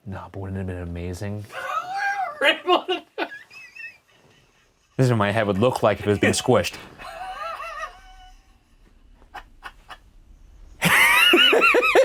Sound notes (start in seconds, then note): 2.4 laughing; 9.2 both laughing